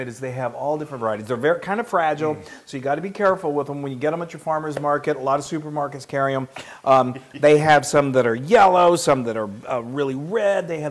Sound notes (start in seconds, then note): 7.3 laugh